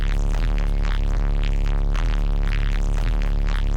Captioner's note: none